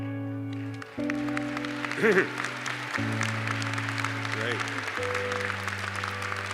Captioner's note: applause